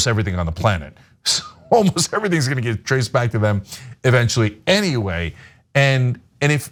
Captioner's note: laugh